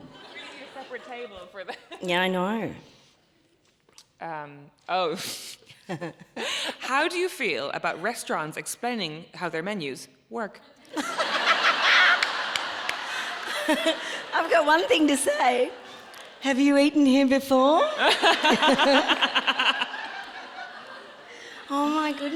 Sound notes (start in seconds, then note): 5.6 laughs; 10.8 audience laughing; 19.5 audience laughs